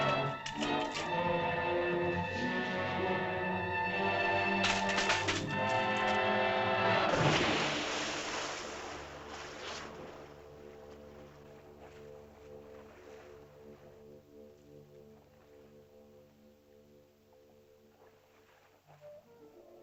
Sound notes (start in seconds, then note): 0.0 suspenseful music; 0.0 tree crackles; 0.2 suspenseful music; 4.4 tree crackles; 6.9 water splashes; 19.1 soft ominous music